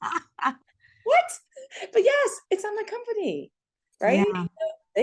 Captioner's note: laughter